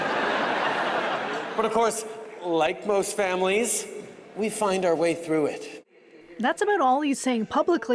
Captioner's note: laughter